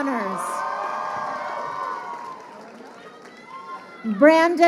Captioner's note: crowd cheering